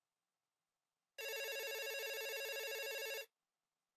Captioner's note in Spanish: tono de llamada